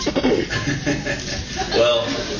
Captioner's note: laughs